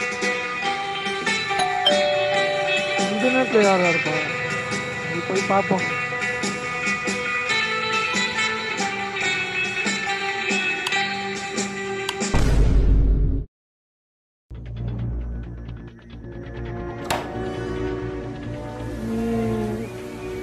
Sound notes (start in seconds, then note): 1.4 calling Bell rings